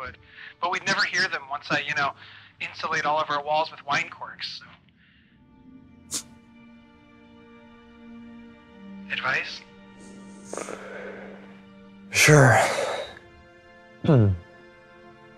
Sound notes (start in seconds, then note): 10.3 deep sigh; 13.8 clears throat